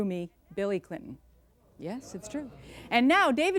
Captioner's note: audience mumbling